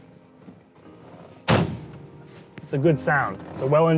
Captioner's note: car door closes